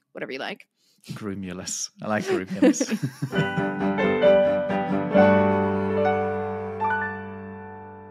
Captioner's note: laughs